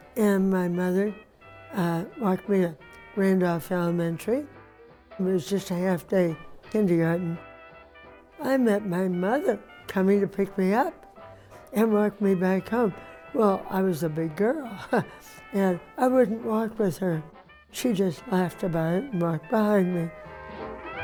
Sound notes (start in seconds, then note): 14.5 laughs